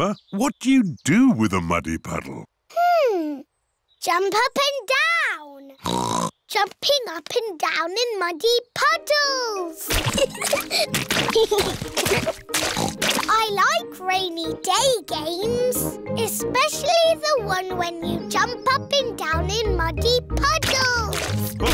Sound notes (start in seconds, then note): 5.8 oinks; 10.0 both giggling; 12.5 oinks